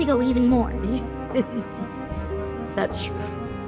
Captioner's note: laughs